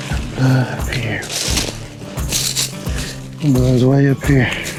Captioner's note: leaves crunching